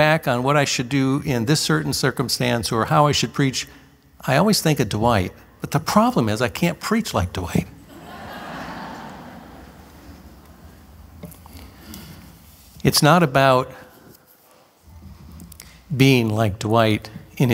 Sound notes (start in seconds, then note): 7.8 laughter